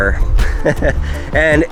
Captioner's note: laughs